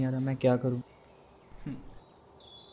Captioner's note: david sighs